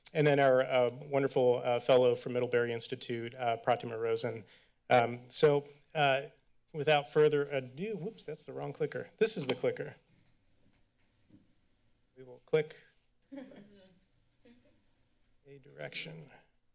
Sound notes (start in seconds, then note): 13.4 chuckles